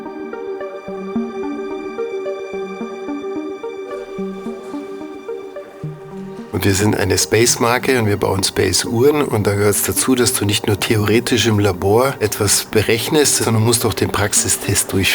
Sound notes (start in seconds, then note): 0.1 experimental music; 7.0 speaks German